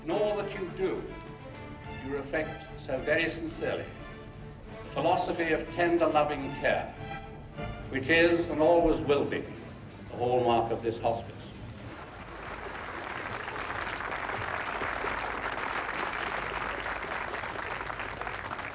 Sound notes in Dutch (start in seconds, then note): 11.8 publiek applaudisseert